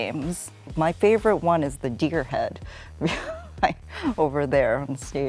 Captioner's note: laughs